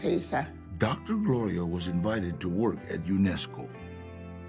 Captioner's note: in English